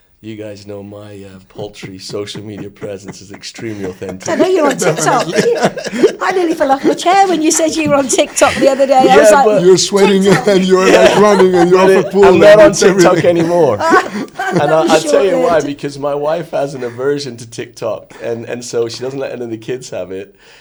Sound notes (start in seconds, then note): 4.2 laughs; 7.0 laughing; 13.7 all laughing